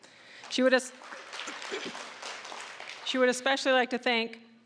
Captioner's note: applause